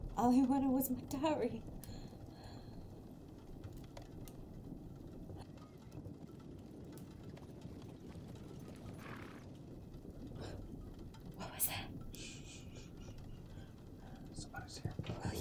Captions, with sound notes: - All he wanted was my dowry. (animal huffing) What was that? - Shh... Somebody's here.